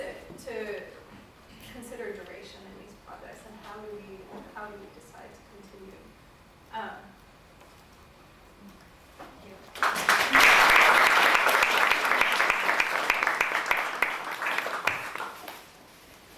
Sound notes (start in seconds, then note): 9.7 applause